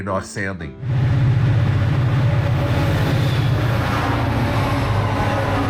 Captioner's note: locomotive rumbling